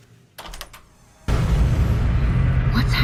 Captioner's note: distortion